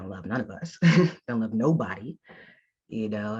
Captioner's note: chuckles